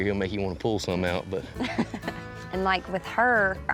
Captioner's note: laughing